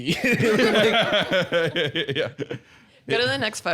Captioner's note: laughing